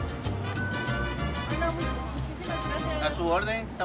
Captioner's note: beep